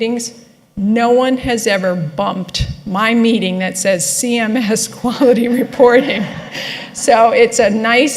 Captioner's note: laughter